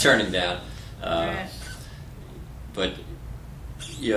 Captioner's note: laughter